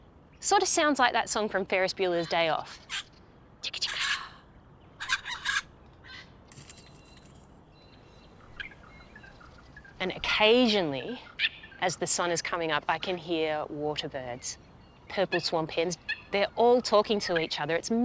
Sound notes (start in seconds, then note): 4.5 chirps